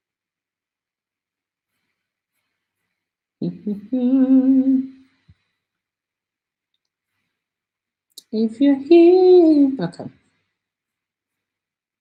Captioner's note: singing; hums